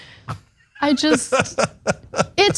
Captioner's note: laugh